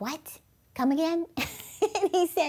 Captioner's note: chuckles